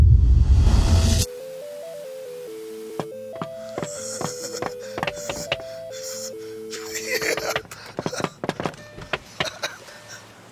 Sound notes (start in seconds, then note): 1.6 video game sounds; 4.5 knocks on window